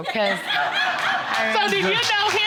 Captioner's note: audience laughing